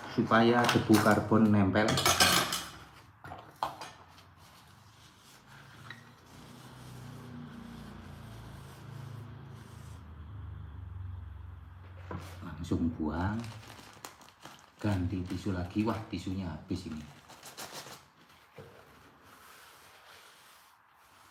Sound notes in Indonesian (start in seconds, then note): none